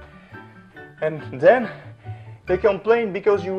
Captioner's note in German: atmet schwer